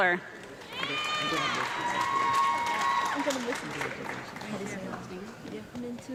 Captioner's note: audience clapping and cheering